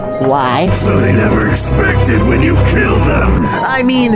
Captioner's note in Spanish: Voz Maligna